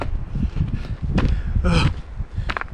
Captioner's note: heavy breathing